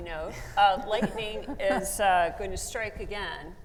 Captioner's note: laughs